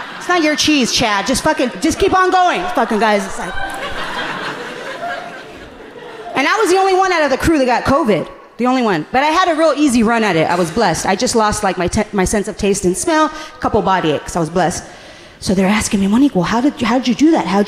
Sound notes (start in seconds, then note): 4.4 audience laughing gently